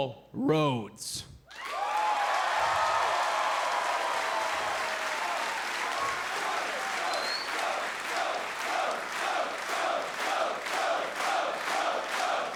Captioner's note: crowd cheering